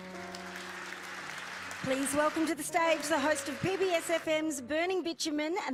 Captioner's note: applause